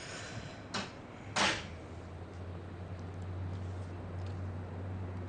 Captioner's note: door clicks closed